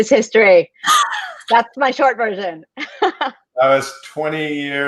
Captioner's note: laughs